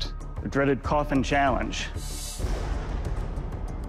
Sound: thunder

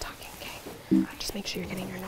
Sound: error sound

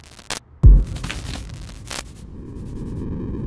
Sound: distorted static

